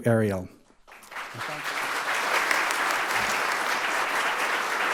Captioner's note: audience applauding